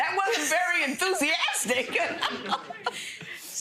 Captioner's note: laughing; laughs